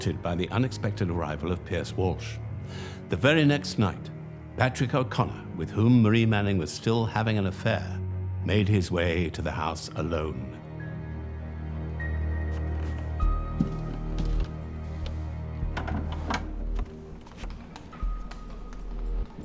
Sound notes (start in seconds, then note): 10.7 eerie music; 15.7 door clicks